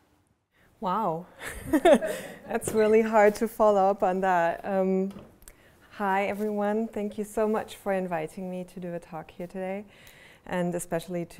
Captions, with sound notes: - Wow. (laughter) That's really hard to follow up on that. Hi everyone, thank you so much for inviting me to do a talk here today, and especially,